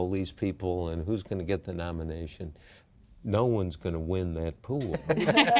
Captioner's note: laughter